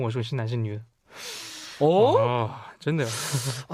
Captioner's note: sigh